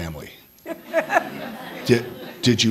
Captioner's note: all laughing